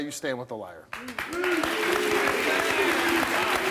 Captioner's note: cheering